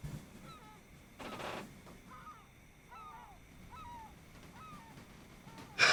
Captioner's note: bird sounds